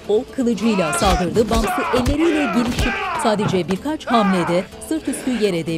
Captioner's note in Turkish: Bağırma sesi; Dövüş sesleri